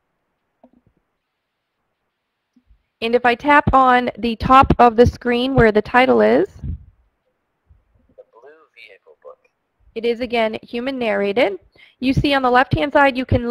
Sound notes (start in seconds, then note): 8.3 voiceover